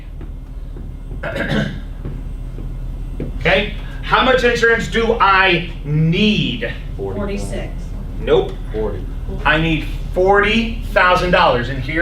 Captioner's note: clears throat